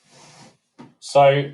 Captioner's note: soft hash sound